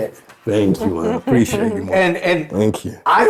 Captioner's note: chuckling